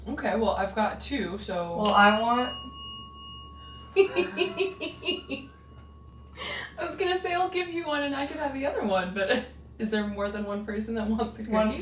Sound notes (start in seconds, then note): 1.8 bell dings; 4.0 investigators chuckle